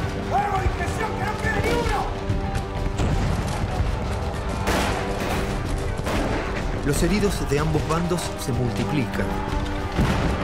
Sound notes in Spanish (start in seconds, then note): 2.8 Disparos